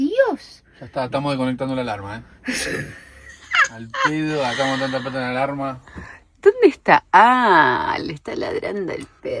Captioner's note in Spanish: risas